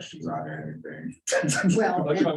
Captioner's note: laughter